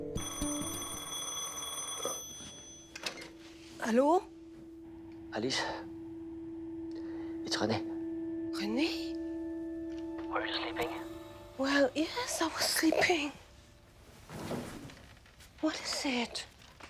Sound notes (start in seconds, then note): 0.1 phone ringing